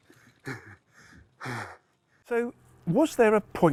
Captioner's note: breaths heavily